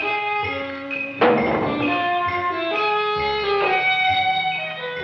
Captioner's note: can clangs